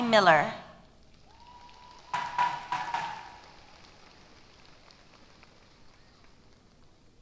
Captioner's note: applause